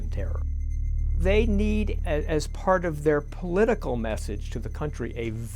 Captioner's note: voiceover